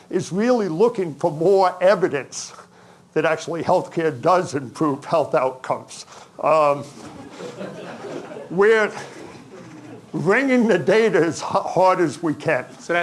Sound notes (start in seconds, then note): 6.7 audience chuckling